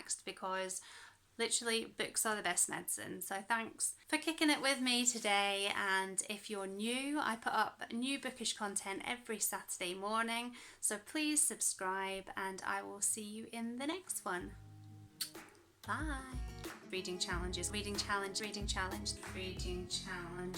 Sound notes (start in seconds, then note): 15.2 kiss